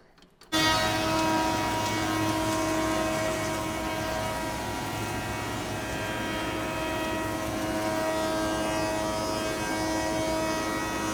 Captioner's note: loud buzzing saw